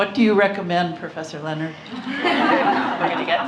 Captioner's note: laughter